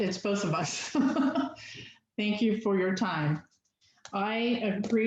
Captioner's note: laughter